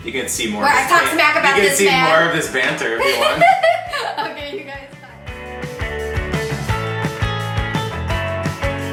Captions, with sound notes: - You can see more - Where I talk smack about this man - You can see more of this banter everyone. (laughs loudly) - Okay you guys bye (upbeat music)